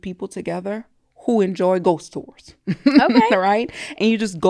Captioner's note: laughs